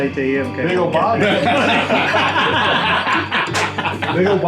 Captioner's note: everyone laughs